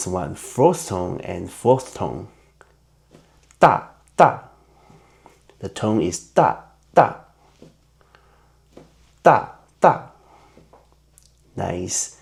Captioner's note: in Mandarin